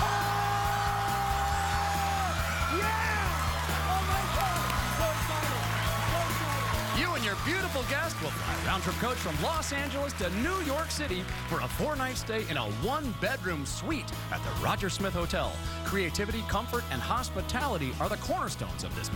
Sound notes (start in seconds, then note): 6.0 cheers and applause